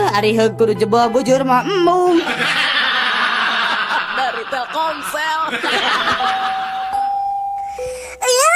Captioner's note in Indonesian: tertawa